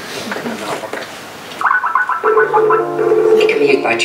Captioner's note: laughing; skype call noises